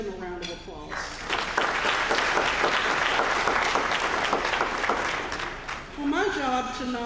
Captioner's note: applause